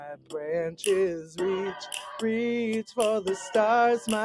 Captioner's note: raven caws